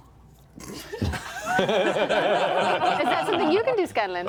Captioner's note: laughter